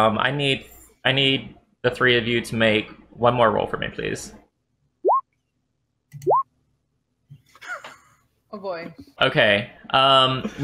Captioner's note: laughter